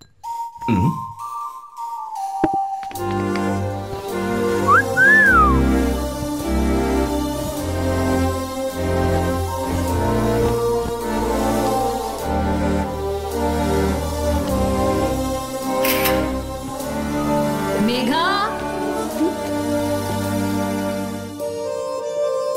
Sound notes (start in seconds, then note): 4.6 whistling; 15.7 camera clicks